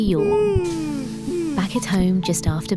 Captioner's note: yawning